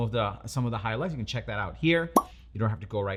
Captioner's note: icon pops